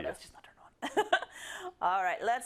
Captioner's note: laugh